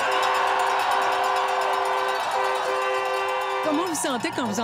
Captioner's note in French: tintamarre